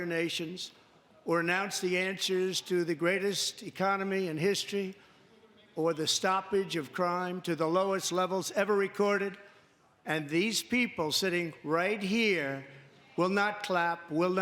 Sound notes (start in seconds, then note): none